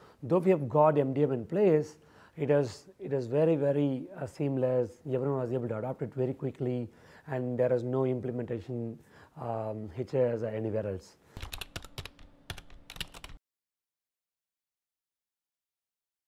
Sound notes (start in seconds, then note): 11.4 keys clacking